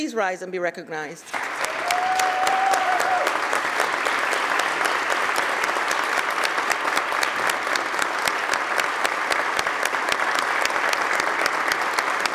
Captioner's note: applause